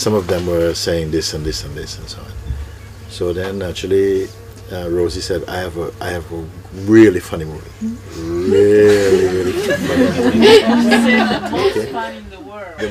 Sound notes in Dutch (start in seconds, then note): 8.8 gelach